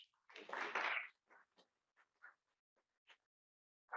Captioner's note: applause